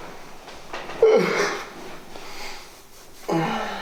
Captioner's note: yawning